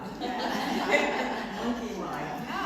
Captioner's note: laughing